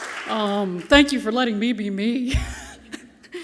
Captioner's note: chuckles